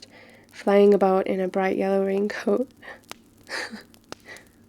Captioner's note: laughs